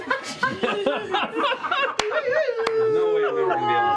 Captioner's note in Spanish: risas